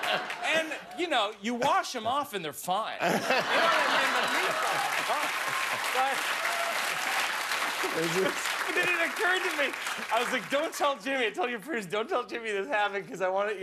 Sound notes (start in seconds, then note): 1.3 laughter; 1.6 cheers and applause